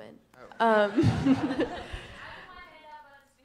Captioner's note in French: rires